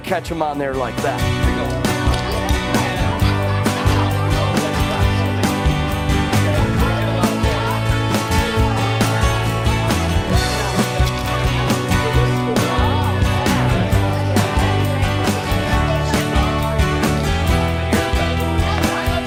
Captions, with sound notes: Try to catch them on there like that. (students talking) (upbeat music)